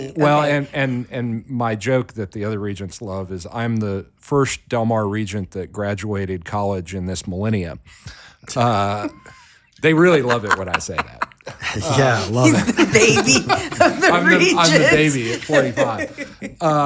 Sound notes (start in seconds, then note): 10.2 laughing